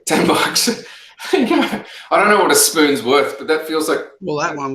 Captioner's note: laughs